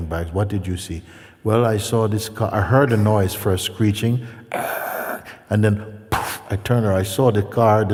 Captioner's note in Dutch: bootst geluiden botsing na